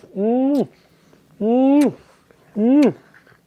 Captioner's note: lips smacking